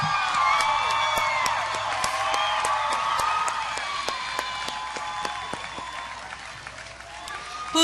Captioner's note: audience applause